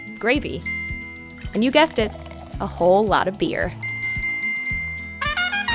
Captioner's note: ding; ding, ding, ding, ding, ding; jazzy music